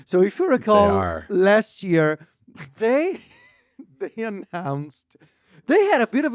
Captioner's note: laughs